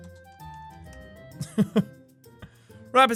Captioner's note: laugh